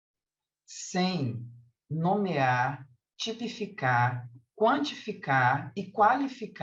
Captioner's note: continues speaking in Portuguese